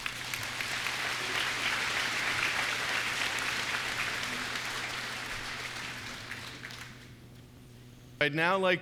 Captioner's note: applause